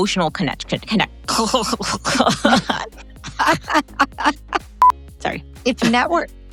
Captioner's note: grunts and laughs